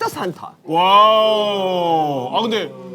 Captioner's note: studio is chattering